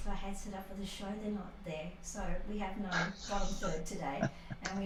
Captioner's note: laughter